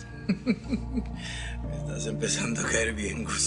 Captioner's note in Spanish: Risas